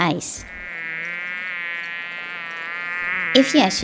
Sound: fly buzzing

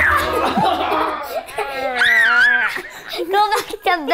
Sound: laughs; laugh

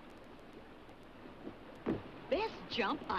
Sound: feet thumping

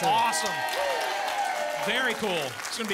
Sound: audience applause

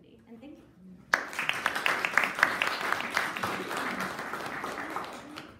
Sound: audience applauding

